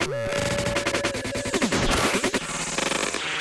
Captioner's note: none